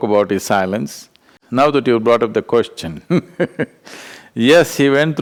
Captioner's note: laughs